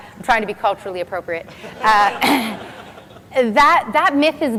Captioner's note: laughs